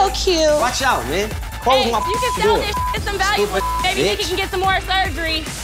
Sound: beep

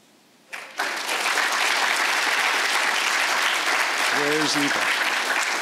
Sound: audience applauds

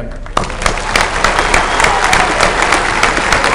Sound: applause

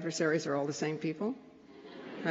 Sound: laughter

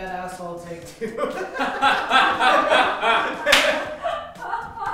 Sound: laughter

